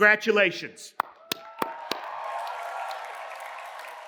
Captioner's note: cheers and applause